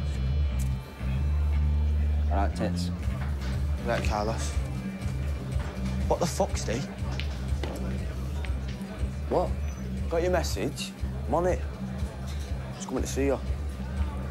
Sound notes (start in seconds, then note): none